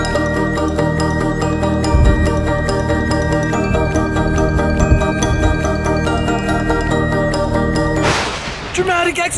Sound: thunder clap

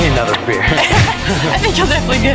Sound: laughing

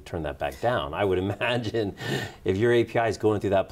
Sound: laughs

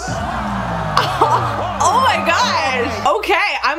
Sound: crowd cheers

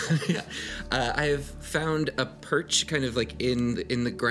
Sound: laughs

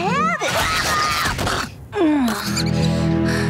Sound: groaning

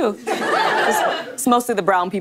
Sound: audience laughing

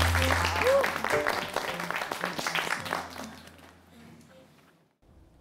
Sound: other trainees give him applause

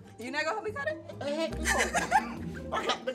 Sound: laughs

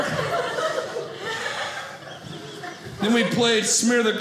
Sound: audience laughing

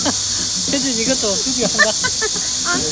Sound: ha ha

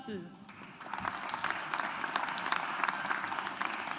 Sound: audience applauds

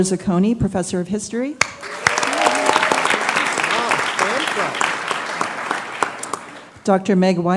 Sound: applause

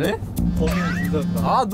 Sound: the cell phone ringing from bag📳

